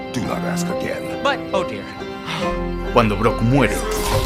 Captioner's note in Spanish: sonido de frustración